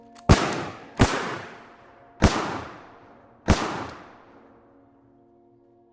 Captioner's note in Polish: strzały